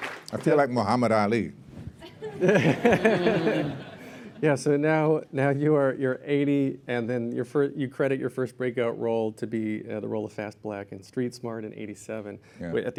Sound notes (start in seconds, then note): 2.0 laughter